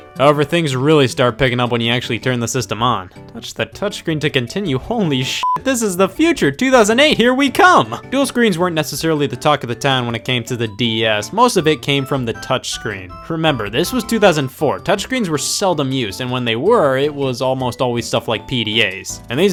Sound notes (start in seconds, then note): 5.4 beep